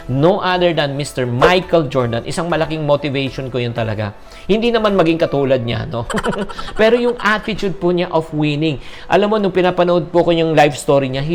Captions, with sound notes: no other than Mr. Michael Jordan. He's really a huge motivation to me. Well, not to be like him, though. [Laughs] But his attitude of winning. You know, when I was watching his life story, --